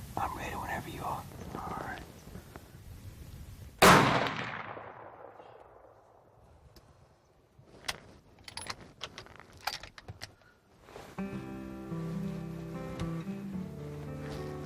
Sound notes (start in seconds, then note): 3.8 gunshot; 11.0 mellow guitar music